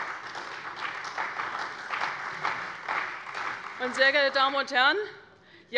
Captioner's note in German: Beifall bei der CDU und dem BÜNDNIS 90/DIE GRÜNEN